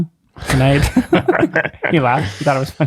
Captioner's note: friars laugh